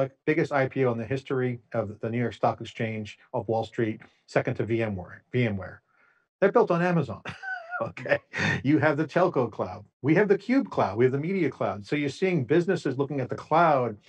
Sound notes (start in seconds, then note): 7.2 laughs